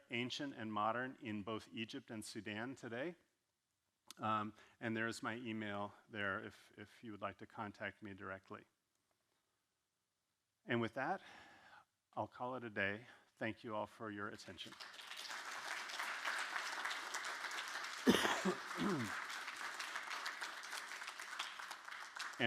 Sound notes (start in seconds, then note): 14.6 audience clapping; 18.0 coughing; 19.6 audience clapping